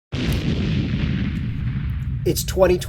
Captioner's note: loud bang